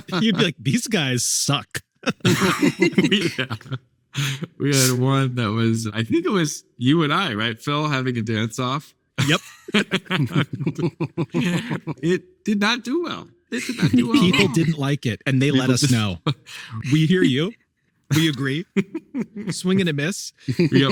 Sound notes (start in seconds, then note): 0.0 group laughing; 0.0 laughing; 9.2 group laughing; 9.2 laughing